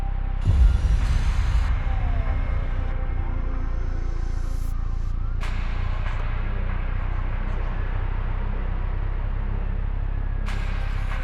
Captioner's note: sirens